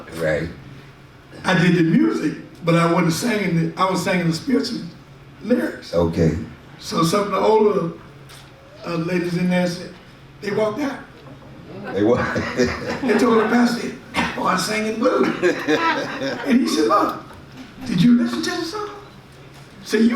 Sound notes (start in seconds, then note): 12.0 and audience laughs; 15.0 audience laughs